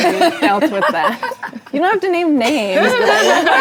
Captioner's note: ladies reacting